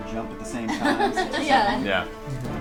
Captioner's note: all laugh